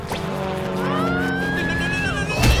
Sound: screaming

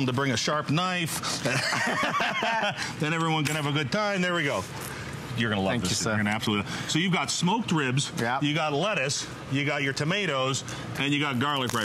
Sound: laughter

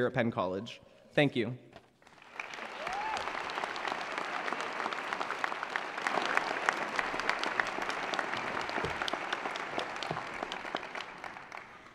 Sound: applause

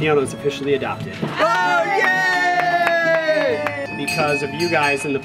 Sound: cheering and clapping

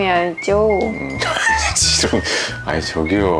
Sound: laughing

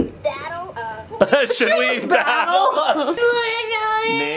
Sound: laughs

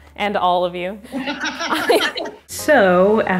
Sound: laughing

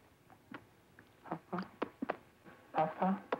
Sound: smacks lips

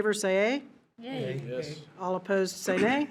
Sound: in Unison

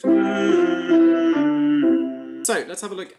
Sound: hums musical scale

